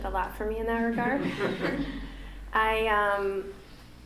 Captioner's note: laughter